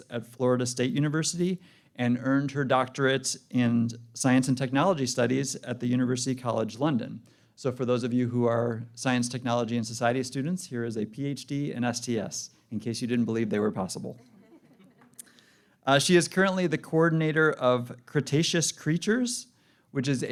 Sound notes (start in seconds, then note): 14.2 laughter